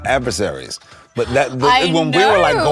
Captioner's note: gasps